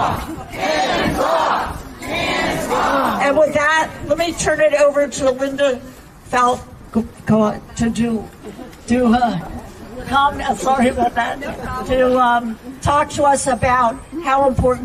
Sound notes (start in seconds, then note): 2.9 chanting